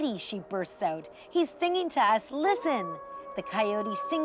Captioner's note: coyote howling